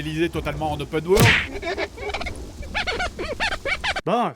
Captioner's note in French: Baffe puis bruit de lustrage de vitre